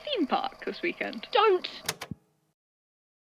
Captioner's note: click